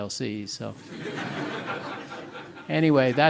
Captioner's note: audience laughing